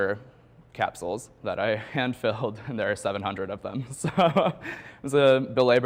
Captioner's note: chuckles